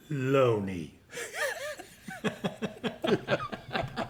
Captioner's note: laughter